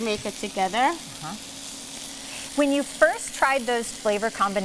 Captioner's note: chicken sizzles